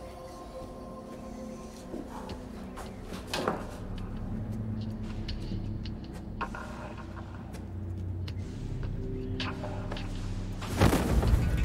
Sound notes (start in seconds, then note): 1.3 exhales